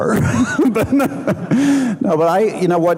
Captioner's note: laughing